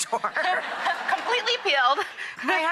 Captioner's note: laughter